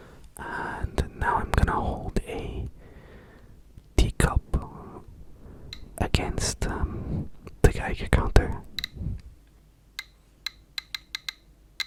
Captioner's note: ticking intensifies